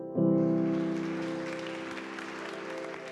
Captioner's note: applause